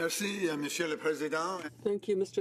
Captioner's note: speaking French